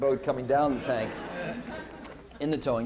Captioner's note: laughter